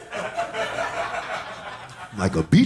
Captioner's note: audience laughing